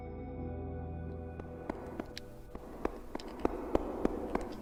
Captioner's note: mysterious music continues; clamping sound